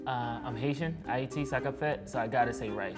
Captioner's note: speaking in foreign language